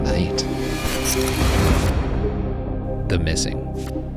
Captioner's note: static buzzing